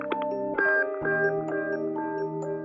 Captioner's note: tone